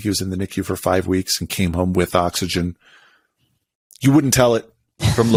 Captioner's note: laughs